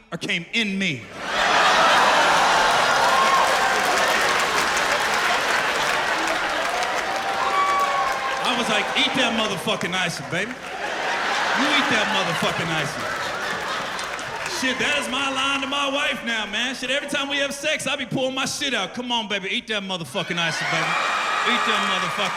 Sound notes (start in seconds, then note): 3.0 laughter; 6.0 cheers and applause